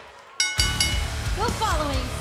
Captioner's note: cheers and applause; bell ringing